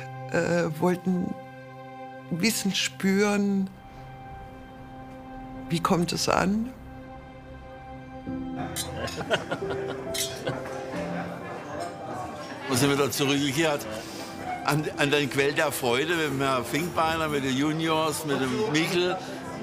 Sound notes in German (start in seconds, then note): 8.6 Lachen; 10.2 Ruhige Musik